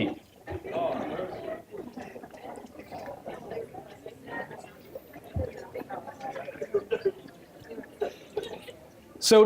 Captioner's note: general chatter